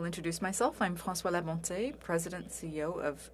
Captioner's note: speaking French